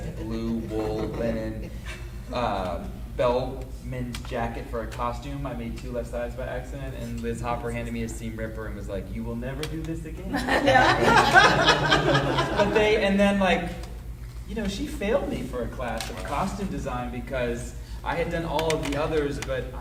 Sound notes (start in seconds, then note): 10.3 audience laughing